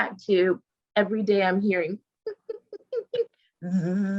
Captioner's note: growls